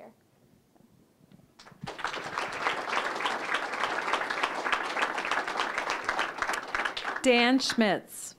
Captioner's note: applause